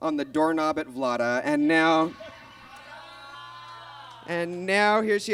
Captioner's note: audience groans